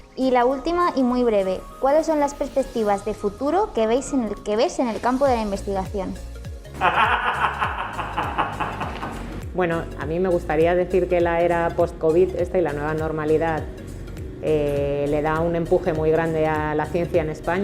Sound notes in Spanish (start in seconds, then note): 6.7 risas